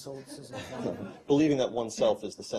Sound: laughter

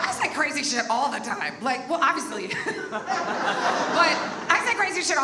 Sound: audience laughs; laughs

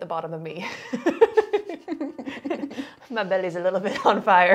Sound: laughs

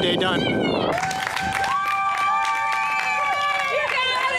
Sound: crowed Cheers

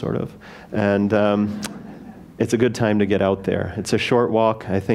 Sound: laugh

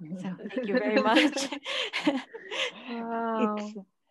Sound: all laughing

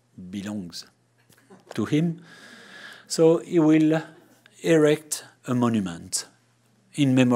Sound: chuckling

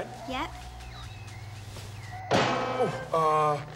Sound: clangs

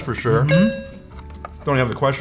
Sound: tone chimes

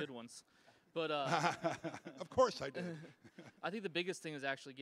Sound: laughing

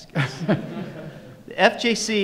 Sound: audience and panelists laugh

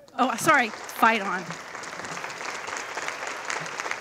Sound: audience applauding

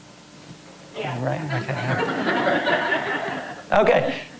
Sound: laugh

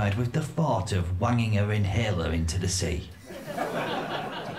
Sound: laughter

